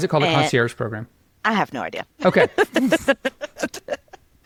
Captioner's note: laughs